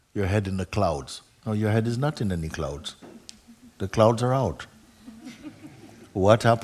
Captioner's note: laughter